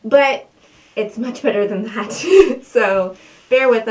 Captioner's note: laughing